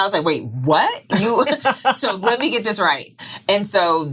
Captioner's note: laughing